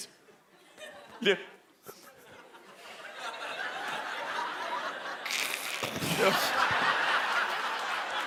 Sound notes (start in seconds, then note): 5.3 creature hiss